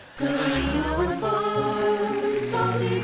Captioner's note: cheers and applause